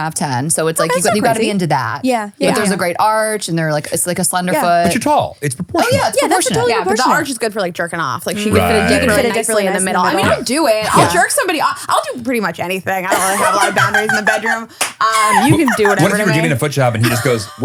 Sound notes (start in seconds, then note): 15.0 laughing